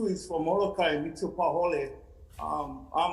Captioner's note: speaking foreign language